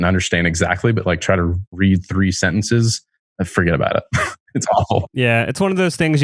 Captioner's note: laughs